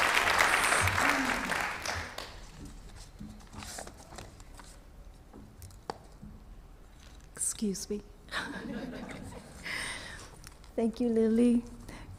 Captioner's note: applause